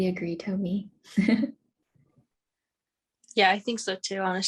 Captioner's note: chuckling